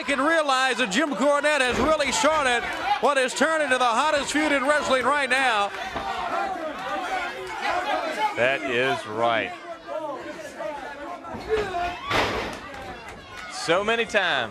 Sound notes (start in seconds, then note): 2.2 crowd chatter